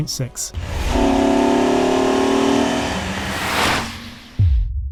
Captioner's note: car revving; air whooshing; drum pounding